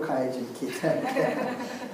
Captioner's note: laugh